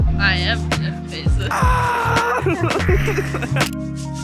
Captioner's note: screams in horror, laughs